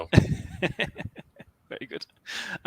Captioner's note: laughs